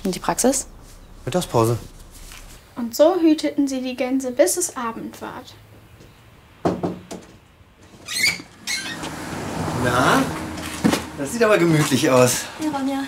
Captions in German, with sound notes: Und die Praxis? - Mittagspause. Und so hüteten sie die Gänse, bis es Abend war. (Klopfen) (Quietschen) Na, das sieht aber gemütlich aus. - Hi, Ronja.